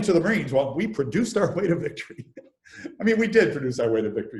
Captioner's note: laughs